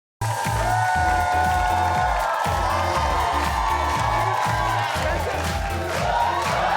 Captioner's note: audience cheers; upbeat music